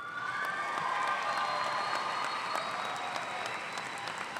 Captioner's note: audience applauding